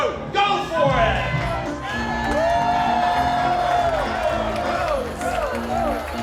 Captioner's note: crowd cheers; instrumental music